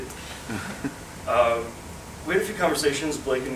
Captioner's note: audience chuckles